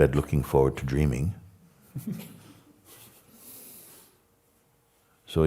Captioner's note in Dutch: gelach